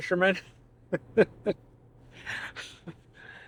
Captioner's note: laughing